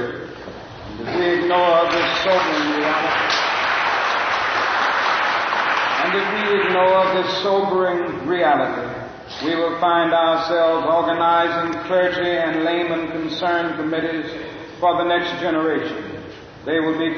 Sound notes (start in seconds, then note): 6.1 applause